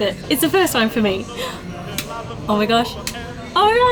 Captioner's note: light switch clicks; gasps; light switch clicks